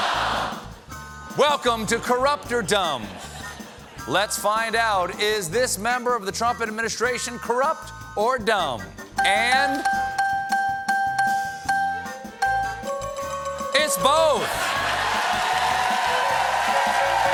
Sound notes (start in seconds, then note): 12.3 bell ringing; 14.4 cheers and applause